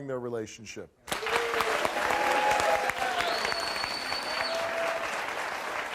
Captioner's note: audience clapping and whistling